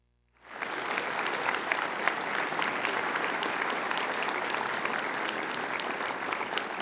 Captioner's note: applause